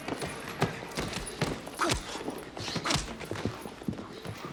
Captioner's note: punches thudding